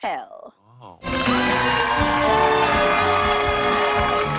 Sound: cheers and applause

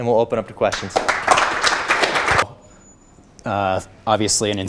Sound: applause

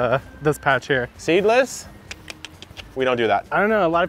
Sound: clicks tongue

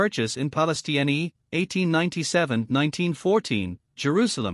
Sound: Hebrew

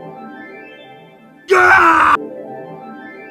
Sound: Sniper TF2 Scream

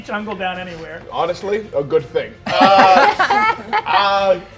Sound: players laughing

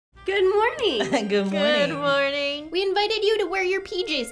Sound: laughs

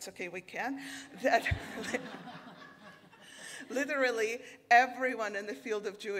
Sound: everyone laughing

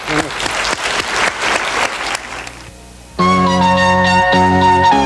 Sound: audience clapping; classical chamber music

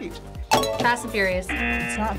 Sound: bell dings

